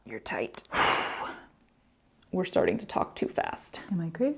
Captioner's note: long exhale